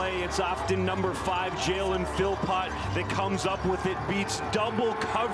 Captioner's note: cheering and Applause